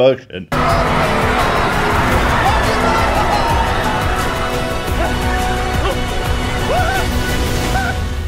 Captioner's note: crowd screaming with dramatic music in background